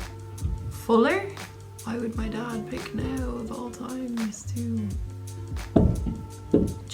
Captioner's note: bonk